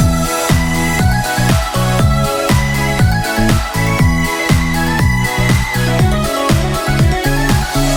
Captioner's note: applause